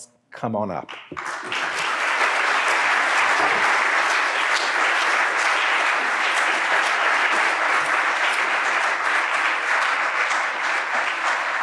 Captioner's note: applause